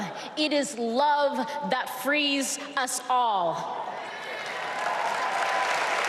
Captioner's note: applause